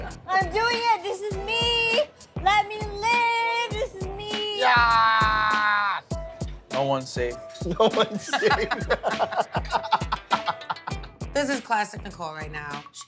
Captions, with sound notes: I'm doing it, this is me! Let me live! This is me. - God! No one's safe. - No one's safe. (laughter) - This is classic Nicole. Right now she drinks,